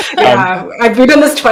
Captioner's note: giggles